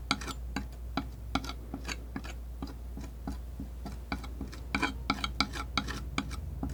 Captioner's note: tapping